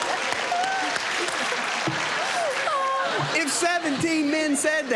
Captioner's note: applause